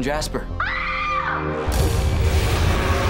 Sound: Piper screaming

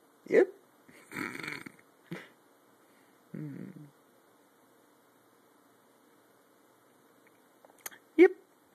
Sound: snickers

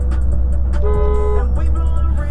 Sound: I Beep Horn

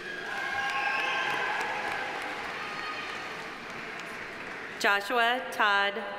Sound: audience applauding; audience cheering

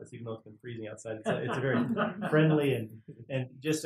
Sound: laugh

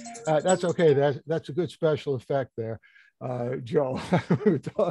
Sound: phone rings

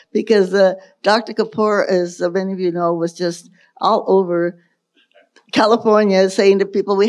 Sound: none

